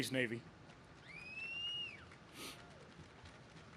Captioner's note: crowd claps